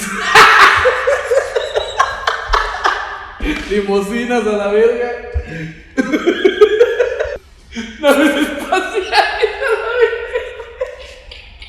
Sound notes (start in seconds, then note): 0.0 laughing; 5.9 more laughing; 10.5 more damn laughing